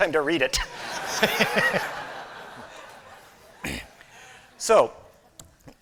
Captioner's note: laughter